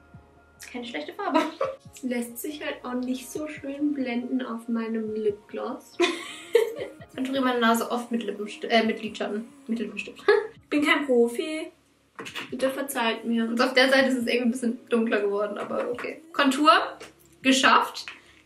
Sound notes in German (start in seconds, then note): 1.3 kichert; 6.0 lacht